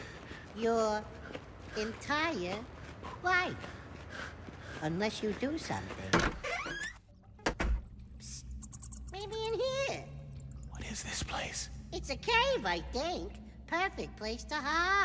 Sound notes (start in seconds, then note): 6.1 door creaks open, shut; 8.0 bats squeaking; 10.4 whispering